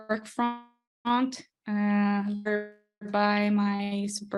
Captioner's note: streaming skips garble audio